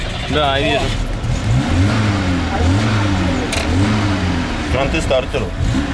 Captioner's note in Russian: работает двигатель